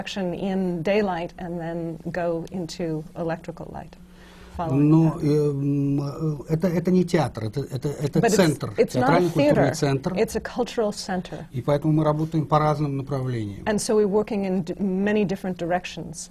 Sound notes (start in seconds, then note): 0.0 foreign language not transcribed; 5.0 foreign language not transcribed; 11.7 foreign language not transcribed